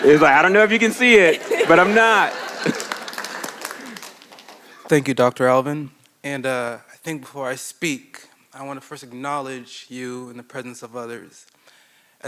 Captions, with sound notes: I don't know if you can see it, but I'm not. (laughs) - Thank you, Dr. Alvin. And I think before I speak, I want to first acknowledge you in the presence of others.